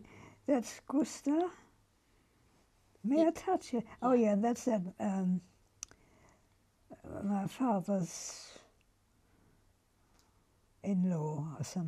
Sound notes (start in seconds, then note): 5.0 pauses for 3 seconds